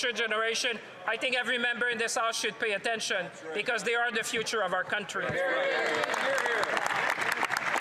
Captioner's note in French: voix de l'interprète